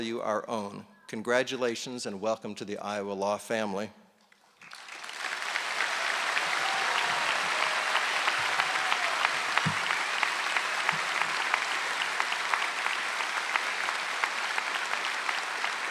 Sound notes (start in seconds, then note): 4.6 applause